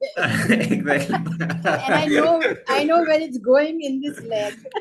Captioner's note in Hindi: हंसी; गला साफ़ करने की आवाज़